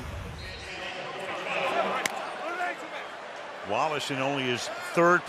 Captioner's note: pa announcement